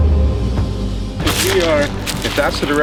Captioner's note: water splashes